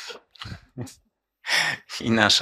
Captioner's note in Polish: lekki śmiech